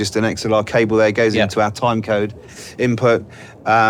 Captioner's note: none